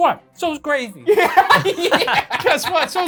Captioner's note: laughs